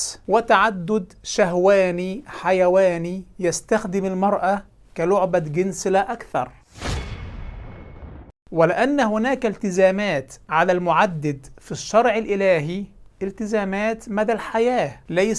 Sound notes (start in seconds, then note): 6.7 sound effects